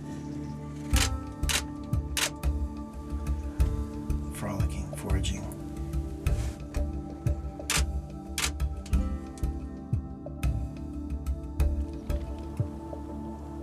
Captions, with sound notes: (camera clicking) Frolicking, foraging. (camera clicking)